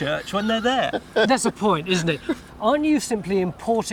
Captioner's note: laughing